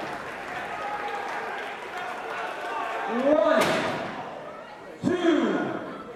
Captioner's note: crowd chatter